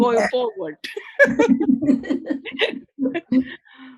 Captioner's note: laughter